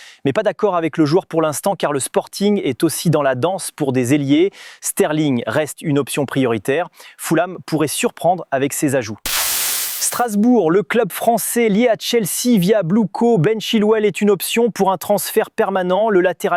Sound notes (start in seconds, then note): 9.3 2-second sound effect